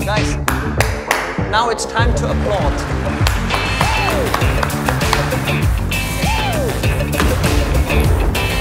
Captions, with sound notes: - Nice. Now it's time to applaud. (applause)